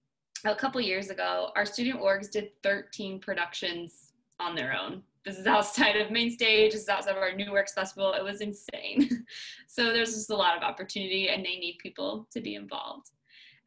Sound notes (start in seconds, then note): 8.9 laughter